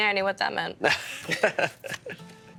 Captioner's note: laughing